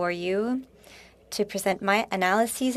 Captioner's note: speaking French